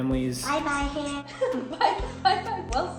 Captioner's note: laughing